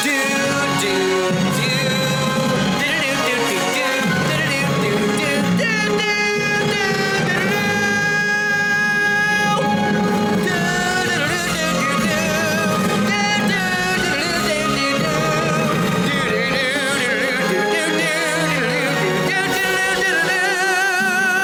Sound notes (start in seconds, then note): 0.1 humming; 4.4 epic music; 6.9 humming